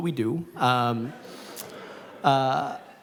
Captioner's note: laughter